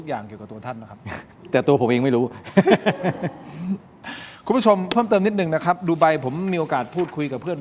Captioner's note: laughs